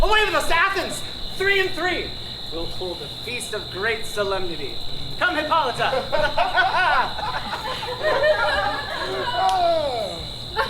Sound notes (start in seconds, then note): 5.7 laughs; 7.6 lovers laughing